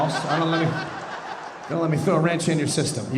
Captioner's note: audience laughing